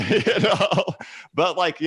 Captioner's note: laughs